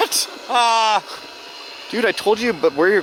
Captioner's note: exclaims